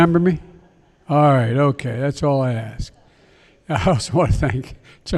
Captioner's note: laughter; laughs